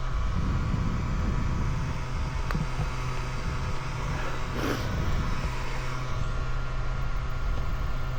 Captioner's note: engine revving